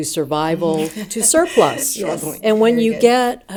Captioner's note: laughing